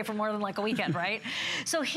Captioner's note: laughter